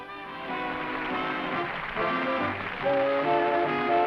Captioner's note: applause